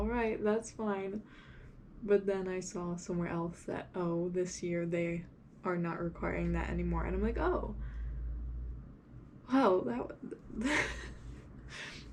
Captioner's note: laughs